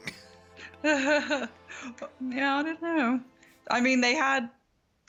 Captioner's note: chuckles